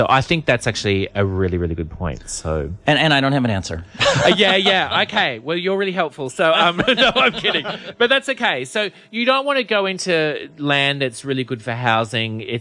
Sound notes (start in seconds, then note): 6.5 laughs